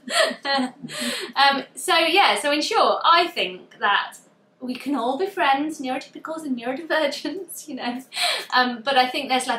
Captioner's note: laughs